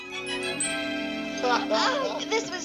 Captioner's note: laughter